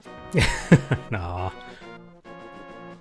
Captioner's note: laughing